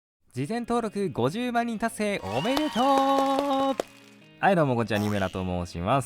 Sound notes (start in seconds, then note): 2.2 applause